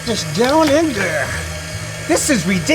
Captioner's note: grinder whirring